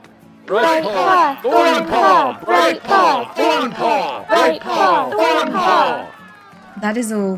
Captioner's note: chanting